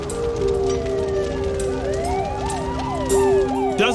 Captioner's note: sirens wailing